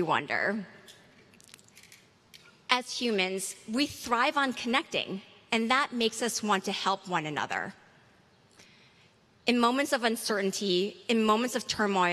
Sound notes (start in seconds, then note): none